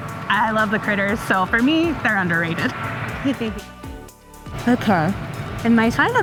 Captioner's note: chuckles